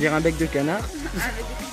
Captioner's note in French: rires